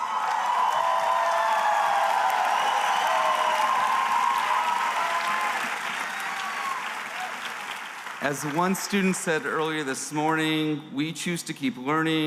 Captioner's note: cheering